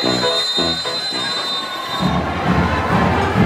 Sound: whistle blows

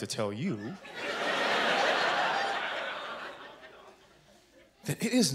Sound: laughter

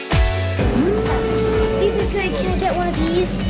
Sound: humming

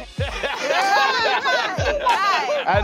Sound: laughter

